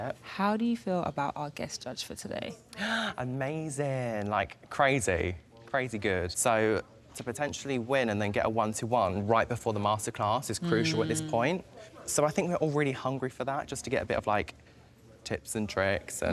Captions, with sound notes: How do you feel about our guest judge for today? (gasps) Amazing. Like crazy, crazy good. So, to potentially win and then get a one-to-one right before the masterclass is crucial at this point. So, I think we're all really hungry for that. Just to get a bit of like tips and tricks